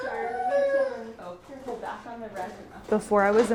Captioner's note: child wailing; indistinctive chatting